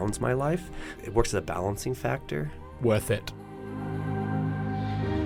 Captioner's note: voiceover